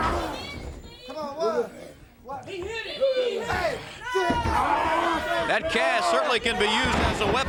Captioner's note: crowd chatter